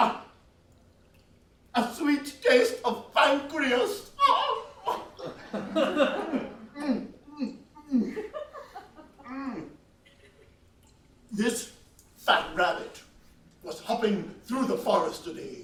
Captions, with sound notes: Ah, a sweet taste of pancreas. (moaning) (laughs) This fat rabbit was hopping through the forest today.